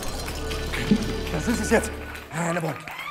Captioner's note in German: Applaus